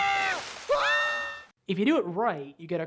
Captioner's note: screaming